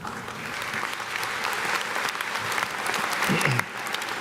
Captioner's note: audience clapping